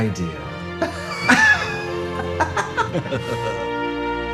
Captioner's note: both laugh